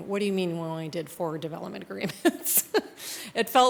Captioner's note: laughs